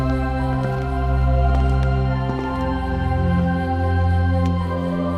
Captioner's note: romantic music plays; the sound of approaching steps; romantic music plays